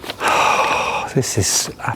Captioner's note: sighing